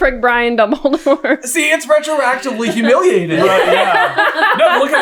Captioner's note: team laughter